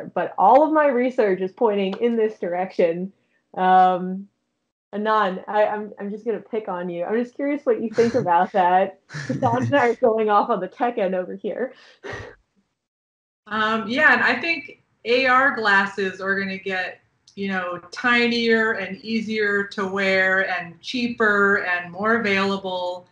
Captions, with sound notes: but all of my research is pointing in this direction. Anand, I'm just gonna pick on you. I'm just curious what you think about that. About that, going off of the tech-end over here. (chuckling) Yeah, and I think AR glasses are gonna get, you know tinier and easier to wear and cheaper and more available.